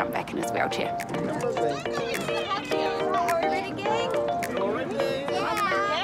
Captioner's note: children chatter